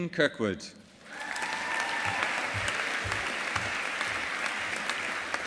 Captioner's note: audience applauding